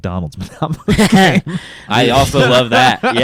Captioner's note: laughs